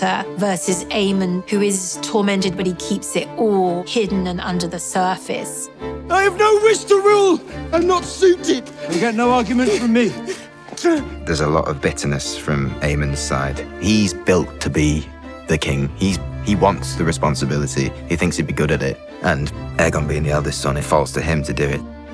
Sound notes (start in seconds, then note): 8.1 gasping